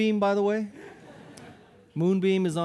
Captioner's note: audience laughing